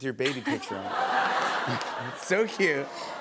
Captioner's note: laughter